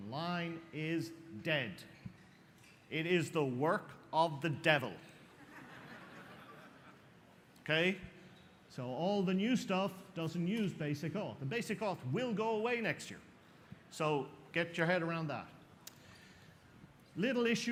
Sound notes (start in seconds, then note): 5.2 laughter